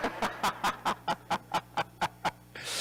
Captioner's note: laughing